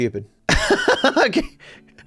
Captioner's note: laughs